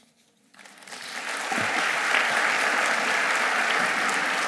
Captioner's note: audience applauding